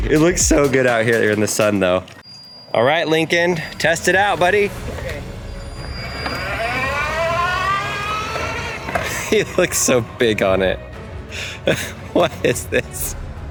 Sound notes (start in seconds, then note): 6.6 engine revving; 11.3 father laughing